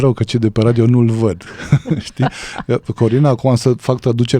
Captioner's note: laughter